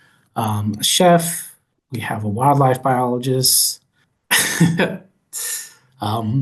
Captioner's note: chuckling